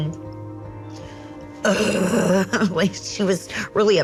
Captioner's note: groans